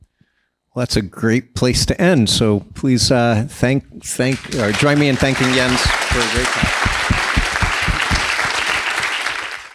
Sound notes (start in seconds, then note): 6.7 people applauding